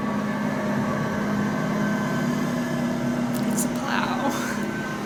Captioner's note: muffled snow plow noises